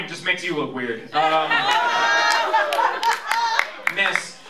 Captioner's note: laughter